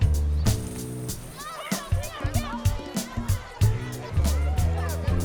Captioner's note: students chattering